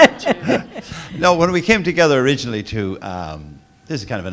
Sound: laugh

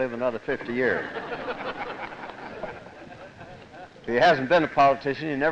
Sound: laughter

